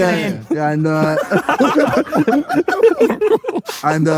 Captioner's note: group laughs